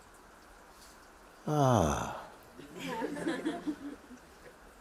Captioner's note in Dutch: gelach